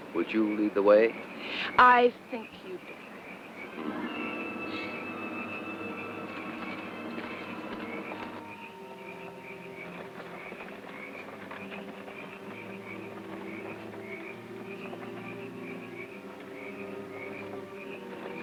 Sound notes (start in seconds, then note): 4.7 insects chirping; 4.7 suspenseful music